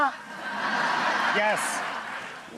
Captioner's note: audience laughs